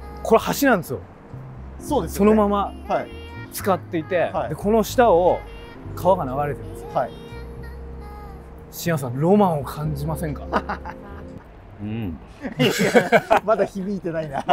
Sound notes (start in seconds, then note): 12.3 laughing